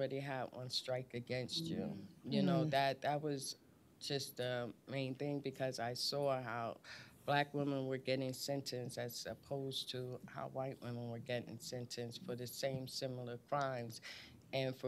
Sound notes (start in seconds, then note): none